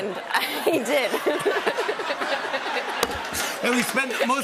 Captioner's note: laughter